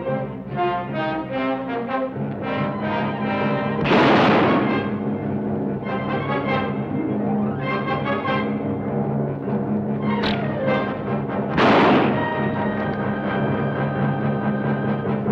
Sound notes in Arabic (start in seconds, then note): 3.8 اطلاق نار; 10.0 رنات القوس; 11.5 اطلاق نار